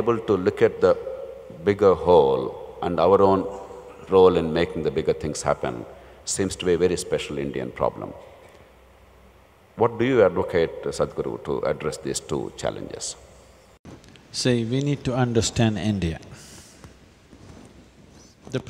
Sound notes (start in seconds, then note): none